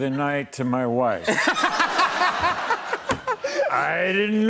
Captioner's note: laughter